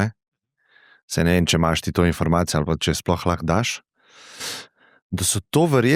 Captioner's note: catches breath